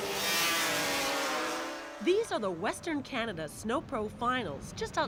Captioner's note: engines revving